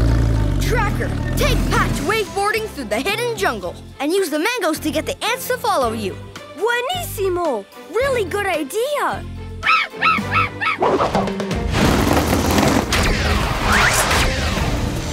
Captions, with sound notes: Tracker, take Patch waveboarding through the hidden jungle and use the mangoes to get the ants to follow you. [speaking foreign language] Really good idea. [squawking]